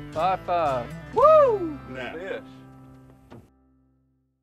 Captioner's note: cheering